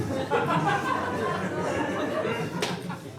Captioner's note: audience laughing